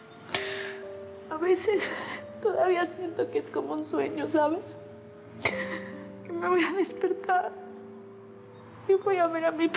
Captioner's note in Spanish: Sollozos